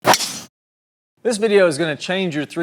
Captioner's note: golf club whooshes as glass breaks